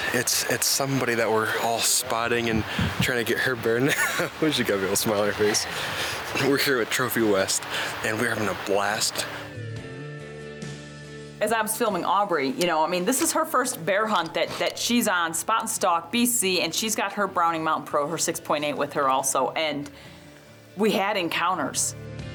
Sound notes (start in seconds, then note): 4.1 laughing